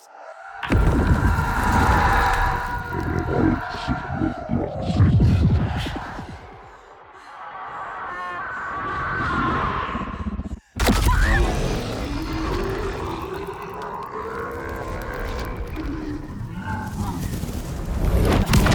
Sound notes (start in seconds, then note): 3.2 screaming; 7.1 screaming; 13.0 growling; 18.2 screaming